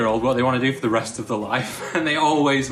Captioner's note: laughs